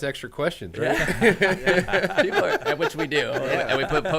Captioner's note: men laughing